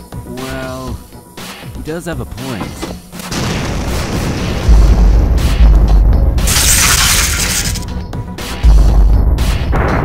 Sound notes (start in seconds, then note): 3.3 explosion